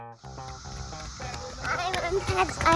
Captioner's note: funky music; ground crunching